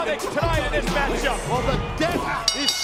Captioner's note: ring bell clanging